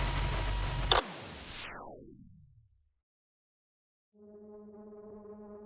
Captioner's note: recorder clicking; soft uneasy music